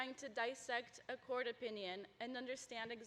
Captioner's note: none